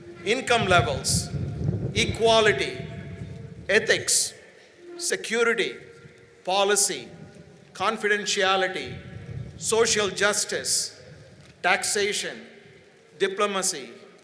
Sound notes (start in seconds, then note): none